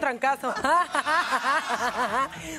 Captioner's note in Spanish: Ríe